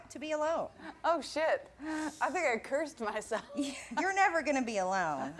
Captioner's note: laughs